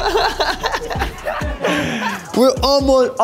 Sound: laughter

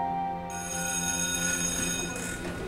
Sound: school bell

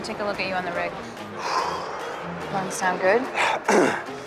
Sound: exhales deeply; clears throat

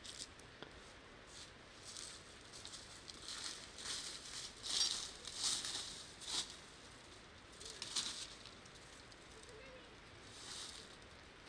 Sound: sound of nature

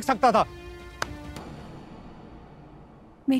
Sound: snapping

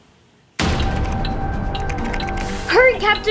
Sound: ticking clock

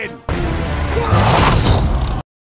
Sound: screams

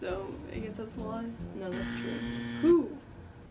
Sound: incorrect buzzer

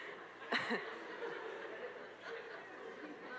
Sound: all laugh

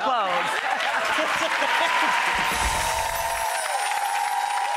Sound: clapping and cheering

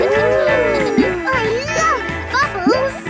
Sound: kids gasping and laughing

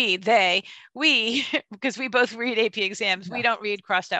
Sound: chuckles

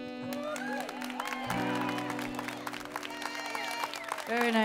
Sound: chuckles; audience clapping

